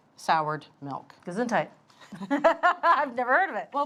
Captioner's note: both laugh